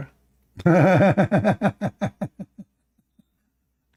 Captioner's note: Ketawa